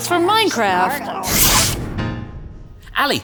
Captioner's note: whoosh!